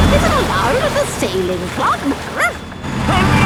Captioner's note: barks